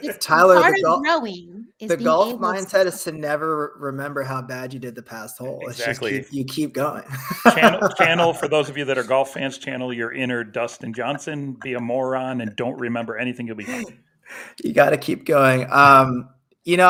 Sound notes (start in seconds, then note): 6.9 laughs; 13.5 chuckles